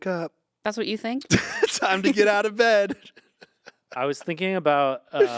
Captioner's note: laughs